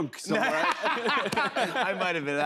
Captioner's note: laughter